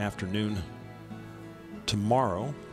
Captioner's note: none